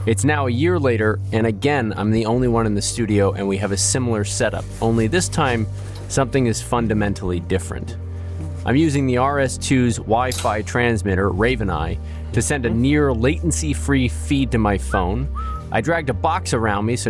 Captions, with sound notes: It's now a year later, and again I'm the only one in the studio, and we have a similar setup. Only this time, something is fundamentally different. (soft upbeat music) I'm using the RS 2's Wi-Fi transmitter RavenEye, to send a near latency free feed to my phone, (gentle whistle) I dragged a box around me,